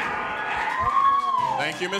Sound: audience cheering

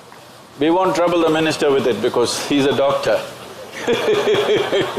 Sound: laughter

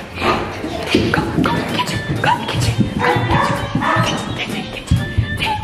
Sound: footsteps running; whispering

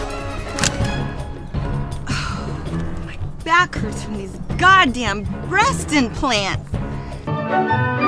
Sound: sighs

